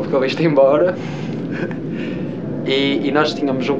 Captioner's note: laughs